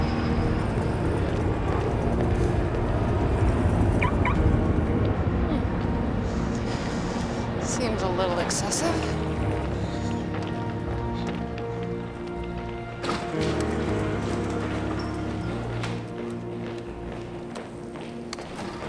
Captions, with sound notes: (car beeps) Hmm. Seems a little excessive. (dramatic music)